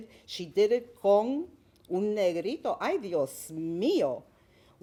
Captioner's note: speaking Spanish